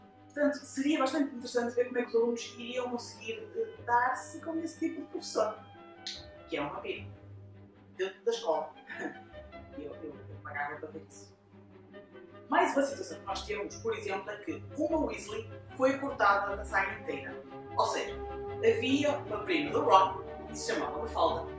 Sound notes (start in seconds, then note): 9.6 laugh